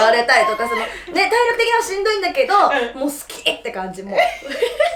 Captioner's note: laughs